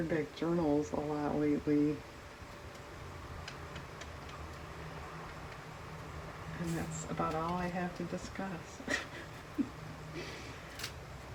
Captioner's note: laughs